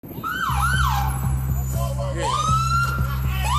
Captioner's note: sirens wailing